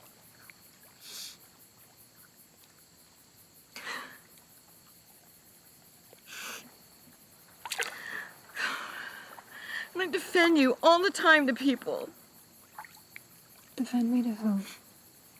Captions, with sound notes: [Tarumi softly cries] And I defend you all the time to people. Defend me to who?